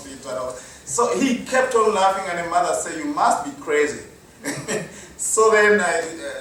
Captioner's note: chuckle